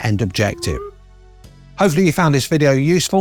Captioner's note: graphic whistles